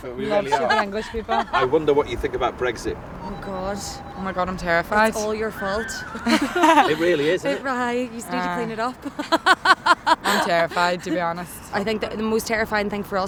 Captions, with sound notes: – We love stupid English people. I wonder what you think about Brexit. Oh god ... Oh my god, I'm terrified. It's all your fault. [Laughter] It really is, isn't it? It - right. You just need to clean it up. [Laughs] I'm terrified, to be honest. I think that the most terrifying thing for us